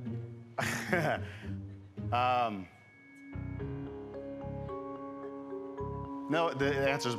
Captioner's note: laughs